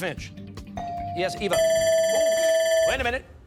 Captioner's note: timer